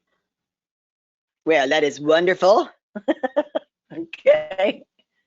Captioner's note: laughs